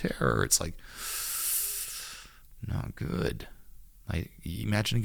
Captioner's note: exhales